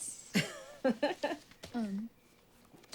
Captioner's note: Suzie laughs